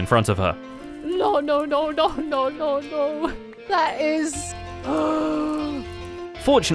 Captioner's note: chanting "no"; gasps